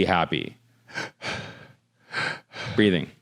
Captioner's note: breathing